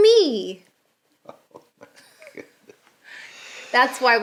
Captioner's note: giggling